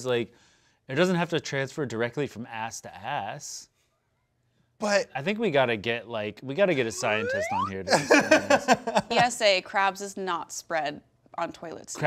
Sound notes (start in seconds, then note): 7.0 laughs